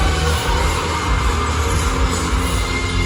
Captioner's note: laughing